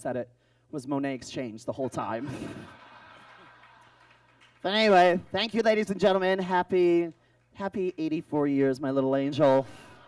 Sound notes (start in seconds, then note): 2.1 audience laughs